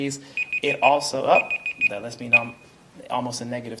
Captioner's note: alarm beeping